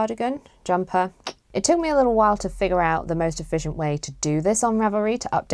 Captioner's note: clicks tongue